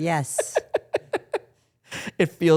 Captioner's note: laughs